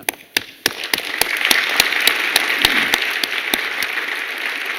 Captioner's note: applause